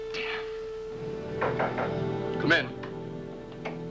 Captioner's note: knock on door